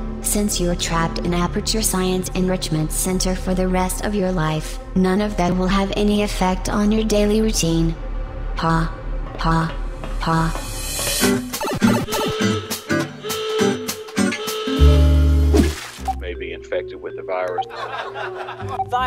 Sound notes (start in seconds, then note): 11.2 playful music; 11.5 video game warbling; 11.6 siren sounding; 17.6 people on TV laughing